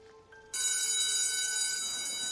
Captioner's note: bell ringing